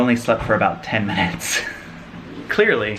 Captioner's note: chuckling